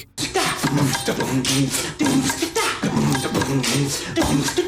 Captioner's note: beat boxing